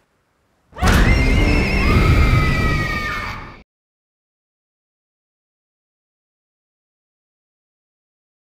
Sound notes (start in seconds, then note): 0.7 shrieks